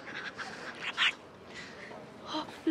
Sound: shady laughs; whispers

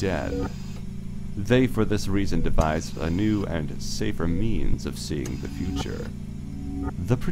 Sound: mechanical ambiance

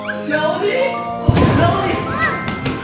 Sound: yells; thunder rumbles

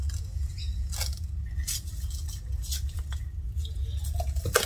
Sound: cling film crinkling

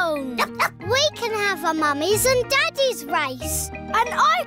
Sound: barks

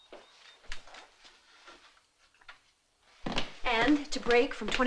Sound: none

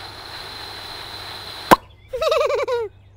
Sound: blowing; pop; giggles

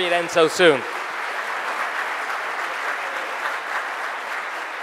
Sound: audience applauding

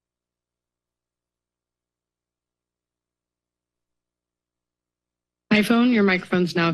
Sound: silence

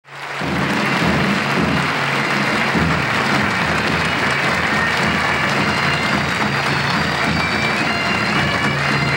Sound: audience applauding; lively marching music

